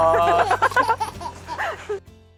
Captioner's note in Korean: 꺄르르